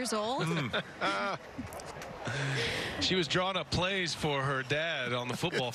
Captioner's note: laughing